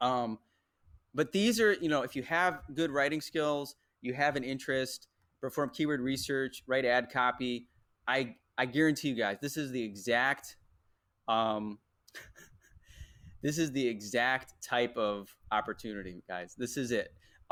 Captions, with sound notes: But these are, if you have good writing skills, you have an interest for keyword research, write ad copy, I guarantee you guys, this is the exact, (laughs) this is the exact type of opportunity, guys, this is it.